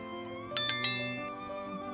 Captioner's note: sad music; click